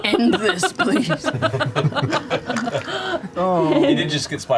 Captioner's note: laughter